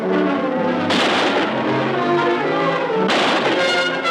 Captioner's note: suspenseful orchestral music; gun firing